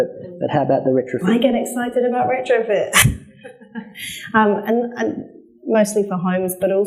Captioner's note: laughs